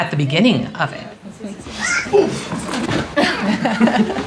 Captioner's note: indistinct chatter; laughter